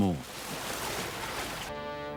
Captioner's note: water babbling; rousing orchestral music